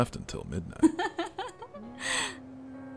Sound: chuckles

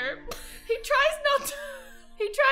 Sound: both laugh

